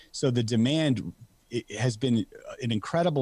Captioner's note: none